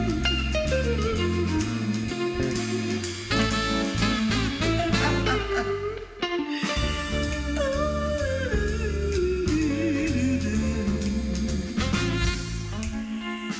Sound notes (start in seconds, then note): 5.8 laughing